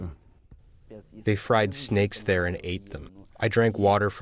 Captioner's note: through translator